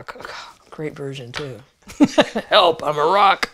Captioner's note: laughs